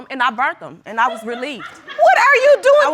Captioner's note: woman laughs